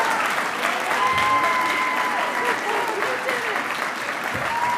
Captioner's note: audience cheering and applauding